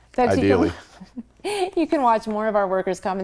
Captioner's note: chuckling